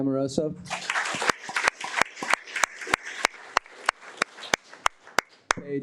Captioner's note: audience applauding